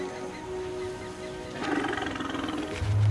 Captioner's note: animals calling; elephant rumbles